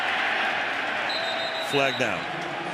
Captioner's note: whistles